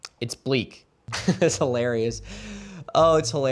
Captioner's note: laughs